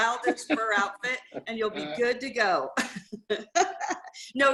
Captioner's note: laughter; laughs